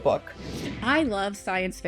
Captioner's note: screen whooshing; meditative music